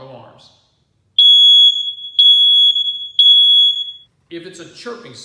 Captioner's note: beep, beep, beep